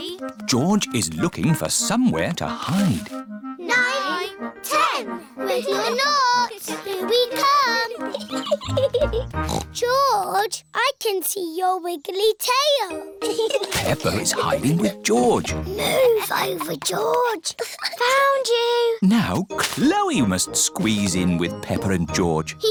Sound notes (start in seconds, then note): 8.3 giggles; 9.3 snorts; 16.1 whispers